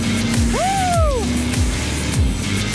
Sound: group member cheers; upbeat music

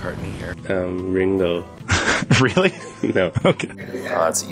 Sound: laughs

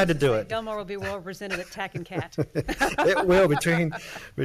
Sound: laughs

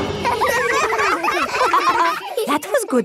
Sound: all giggling

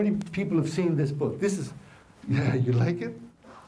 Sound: chuckles

